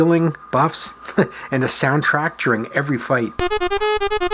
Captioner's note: chuckles; fanfare